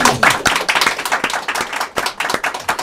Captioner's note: applause